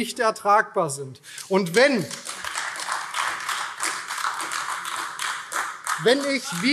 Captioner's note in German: Beifall AfD